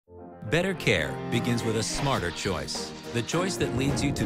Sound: voiceover

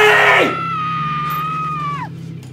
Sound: screams; cries

